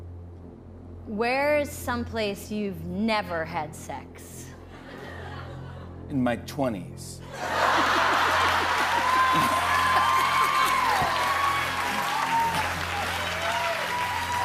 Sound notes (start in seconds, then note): 4.7 laughter; 7.3 laughter; 9.7 cheers and applause